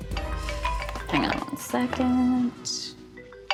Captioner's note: cellphone rings